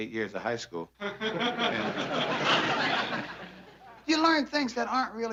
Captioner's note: laughter